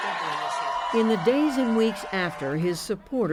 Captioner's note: cheering